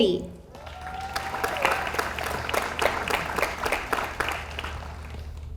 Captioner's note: audience applauds